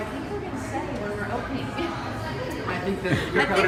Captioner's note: laughs